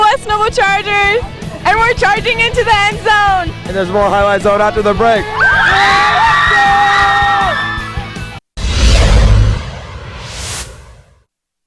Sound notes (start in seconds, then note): 2.5 cheers